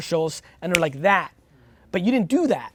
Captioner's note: snaps